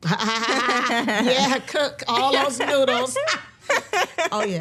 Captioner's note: both laughing; both laughing